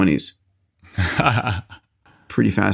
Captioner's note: laughing